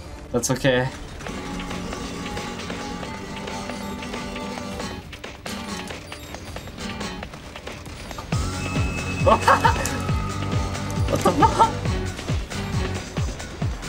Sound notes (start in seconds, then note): 10.8 laughs